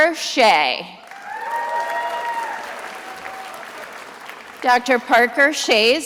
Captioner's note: attendees applauding